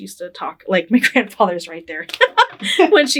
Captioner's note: laughing